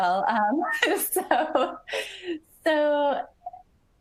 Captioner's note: laughs